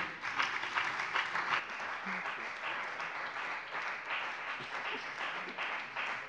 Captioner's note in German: Beifall bei dem BÜNDNIS 90/DIE GRÜNEN und der CDU